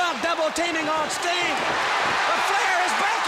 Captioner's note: crowd cheering